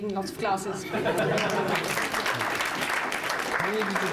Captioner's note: applause